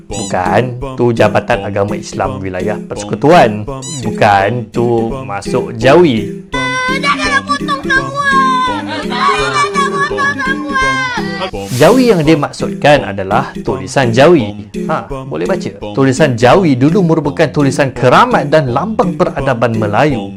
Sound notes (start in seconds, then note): 6.6 boy cries during circumcision